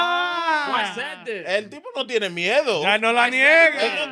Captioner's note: speaking In Foreign Language